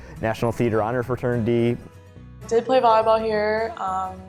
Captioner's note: voiceover